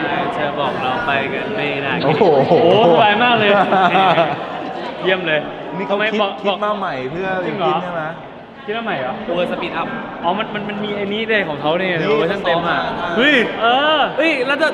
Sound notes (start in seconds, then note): 4.1 laughs